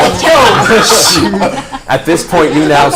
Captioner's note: all laugh